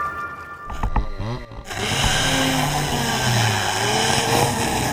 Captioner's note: machine whirs